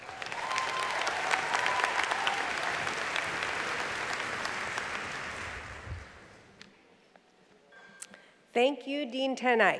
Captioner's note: applause